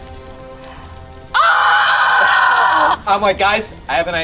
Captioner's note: screams